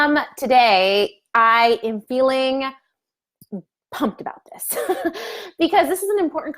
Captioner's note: laughs